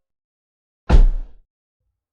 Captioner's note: thump